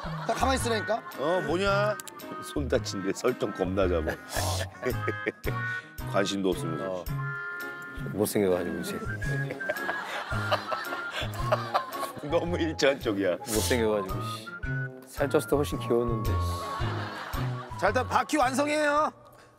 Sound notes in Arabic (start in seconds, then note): 4.0 ضحك